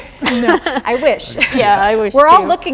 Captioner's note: chuckles